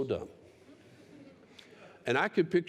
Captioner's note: laughter